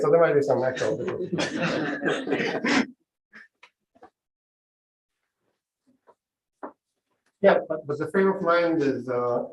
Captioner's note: laughter